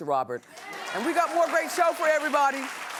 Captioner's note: cheering